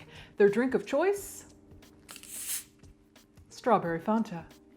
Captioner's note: soda whizzes